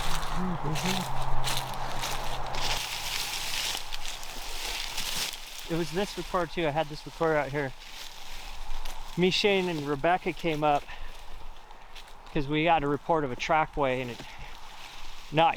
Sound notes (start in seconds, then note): 3.1 vegetation rustling